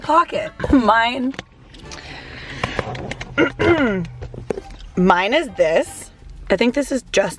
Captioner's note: clears throat